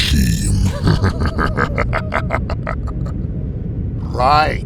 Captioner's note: Acoleyet chuckles evilly